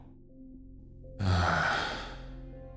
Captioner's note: sigh